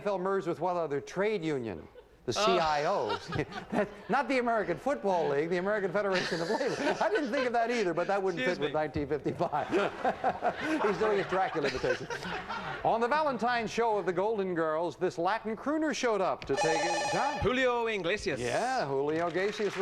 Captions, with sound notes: but that wouldn't fit the date, no. The AFL merged with what other trade union? The CIOs. Oh. Not the American Football League. The American Federation of Labor. I didn't think of that, either, but that wouldn't fit with 1955. Excuse me. [audience laughing] He's doing his Dracula imitation. On the Valentine's show of "The Golden Girls," this Latin crooner showed up to take... John? Julio Iglesias.